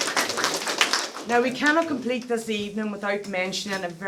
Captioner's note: applause